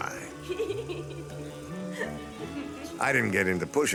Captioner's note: giggles